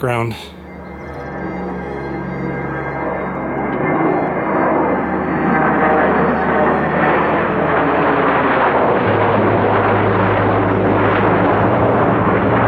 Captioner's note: sound of airplane jets